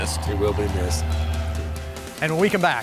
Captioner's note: plane engine roaring